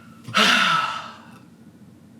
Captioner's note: sighs